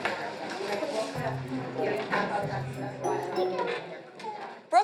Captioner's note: chatter